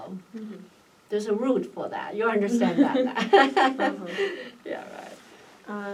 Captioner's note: laughs